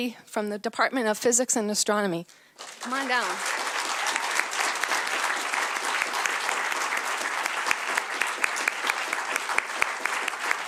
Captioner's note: applause